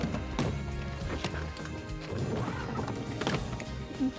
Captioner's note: suitcases thudding